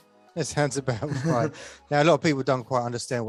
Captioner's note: chuckles